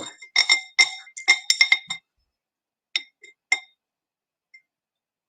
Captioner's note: tool rattles